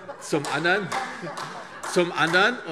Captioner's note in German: Große Heiterkeit